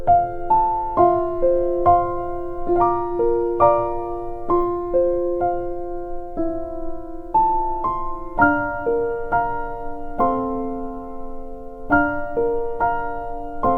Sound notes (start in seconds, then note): none